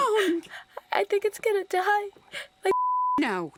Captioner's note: beep